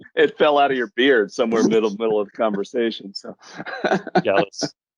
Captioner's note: laughs